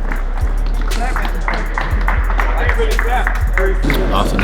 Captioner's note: teammates applauding